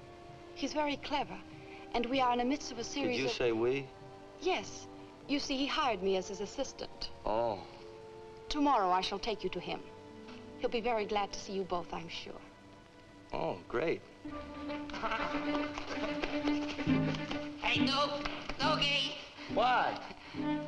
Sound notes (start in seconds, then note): 14.2 frantic music; 15.0 Sammy laughs nervously